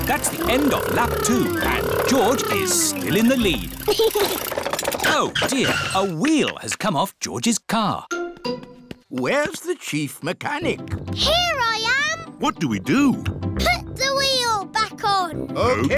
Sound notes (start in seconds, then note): 3.7 chuckles